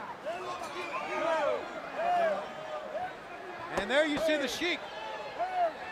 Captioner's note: crowd chatter